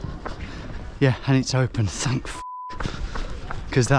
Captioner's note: beeping